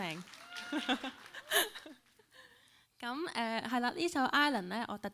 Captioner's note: laughs